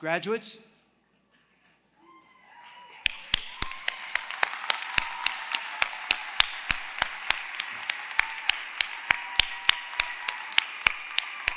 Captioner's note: applause